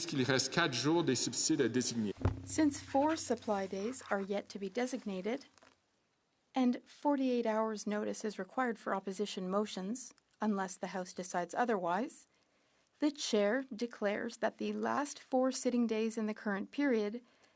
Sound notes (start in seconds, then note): 3.3 speaking French